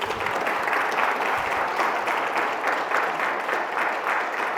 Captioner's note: audience applauding